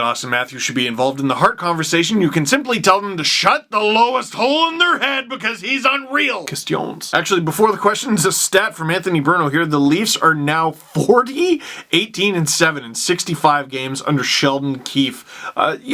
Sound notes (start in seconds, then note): 6.0 french accent